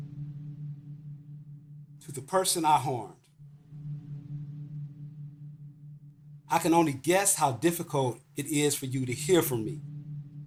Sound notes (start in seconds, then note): 2.0 soundbite of electronic wave pulsing